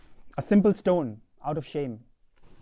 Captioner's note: none